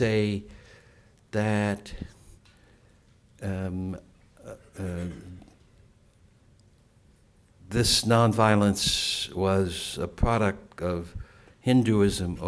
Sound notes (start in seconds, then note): 4.2 silence